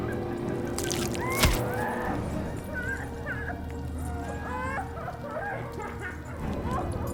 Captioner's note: Heather screaming; hammer thudding; Heather crying